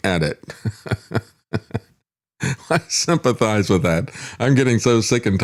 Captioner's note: laughs